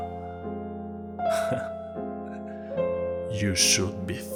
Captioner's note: anime Smirk-Chuckle